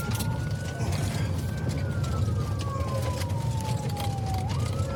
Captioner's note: siren wailing